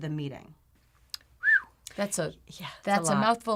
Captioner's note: whistles